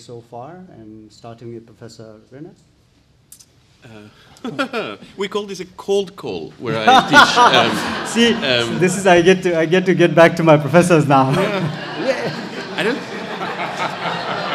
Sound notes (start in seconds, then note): 6.7 audience laughs; 6.8 laughs; 11.2 audience laughs